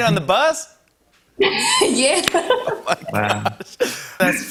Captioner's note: laughs